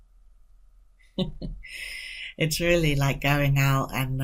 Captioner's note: laughing